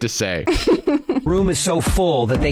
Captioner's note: laughs